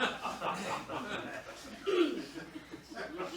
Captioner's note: clears throat